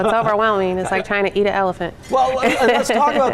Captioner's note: laughs